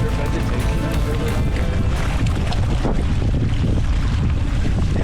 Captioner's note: wind blowing